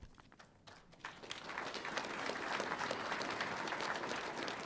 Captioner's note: audience applauding